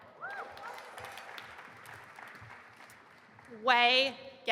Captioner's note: audience applauding and cheering